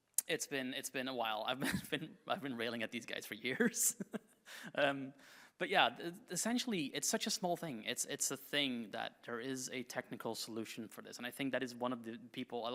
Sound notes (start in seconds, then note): 3.5 chuckles